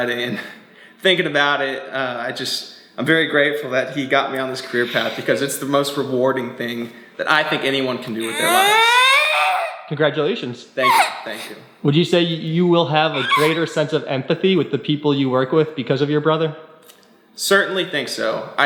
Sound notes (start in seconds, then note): 8.1 yelling